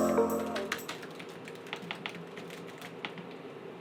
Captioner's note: typing